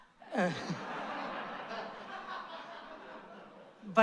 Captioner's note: laughter